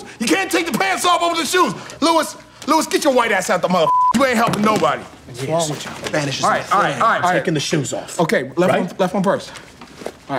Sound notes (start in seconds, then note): 3.8 beep